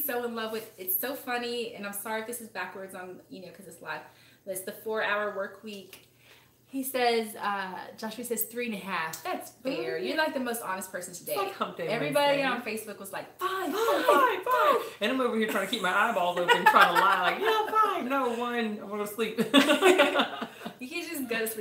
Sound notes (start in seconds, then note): 13.7 laughs